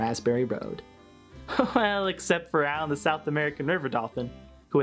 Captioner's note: chuckles